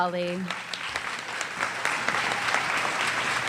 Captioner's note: applause